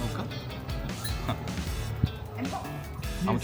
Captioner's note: chuckle